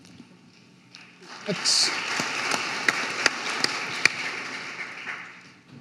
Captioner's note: audience applauding